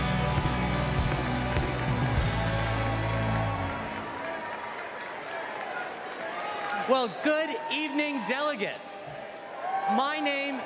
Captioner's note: applause